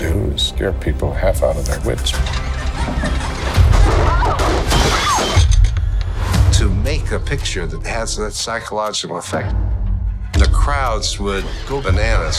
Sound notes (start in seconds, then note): 2.1 bicycle squeaking; 3.5 glass shattering; 3.9 screams